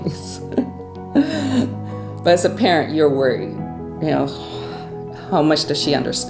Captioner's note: laughter